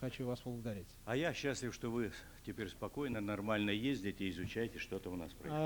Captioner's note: non-english speech